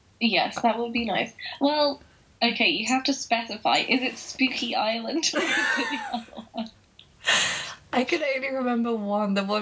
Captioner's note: laughing